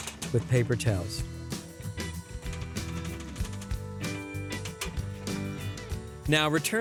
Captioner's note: rack shaking